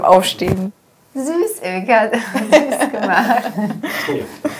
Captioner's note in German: Lachen